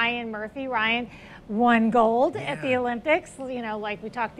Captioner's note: laughs